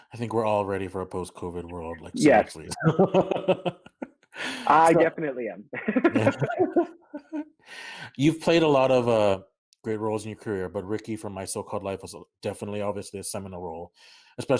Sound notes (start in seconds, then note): 2.4 light laughter